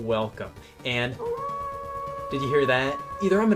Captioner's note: wolf howl